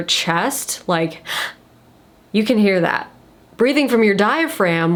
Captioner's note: gasps